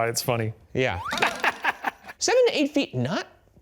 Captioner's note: laughing